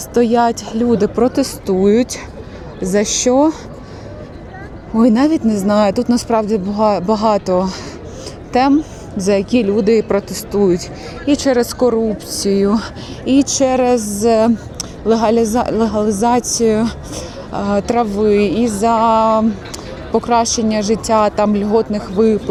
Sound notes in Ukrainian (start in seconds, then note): 10.9 сопіння